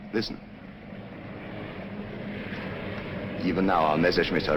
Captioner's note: planes flying